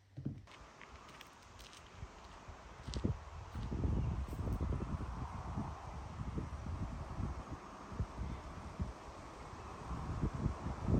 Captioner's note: quiet nature sounds and gentle wind